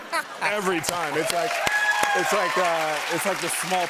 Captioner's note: cheers and applause